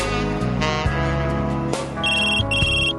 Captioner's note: телефонно звънение